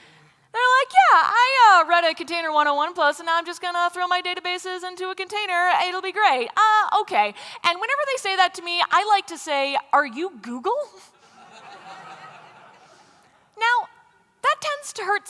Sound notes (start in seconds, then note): 11.1 laughter